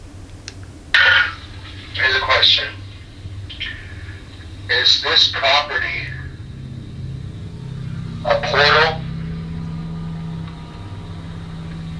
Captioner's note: replays audio from device